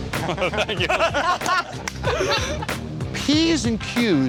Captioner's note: laughter